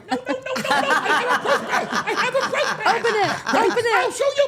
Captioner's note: all laughing